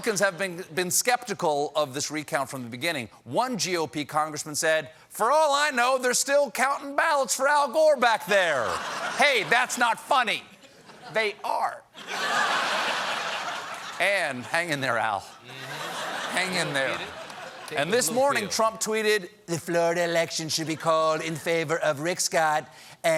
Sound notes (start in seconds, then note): 8.6 laughter; 11.9 laughter; 18.5 laughter